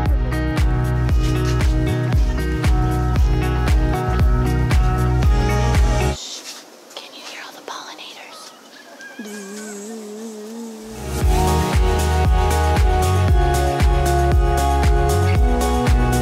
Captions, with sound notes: Shh...Can you hear all the pollinators? *Buzzing noise*